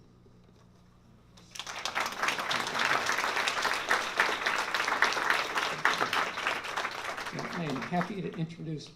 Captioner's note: applause